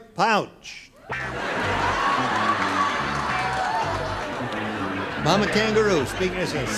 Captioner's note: laughter